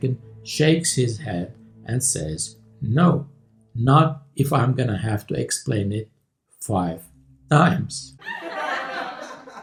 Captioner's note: laughter